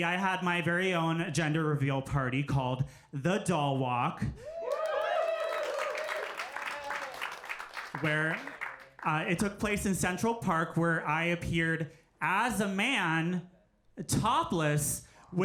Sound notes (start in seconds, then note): 4.4 audience cheering; 4.6 audience applauding